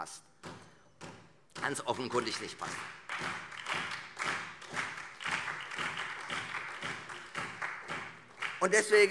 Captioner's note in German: Beifall Freie Demokraten, SPD und BÜNDNIS 90/DIE GRÜNEN